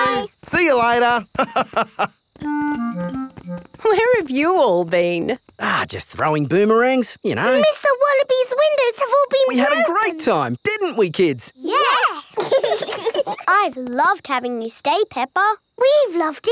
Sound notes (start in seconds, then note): 1.3 laughs; 12.2 laugh